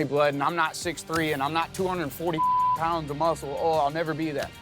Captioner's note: beep